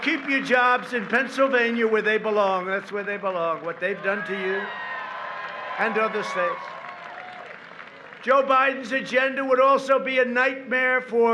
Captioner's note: applause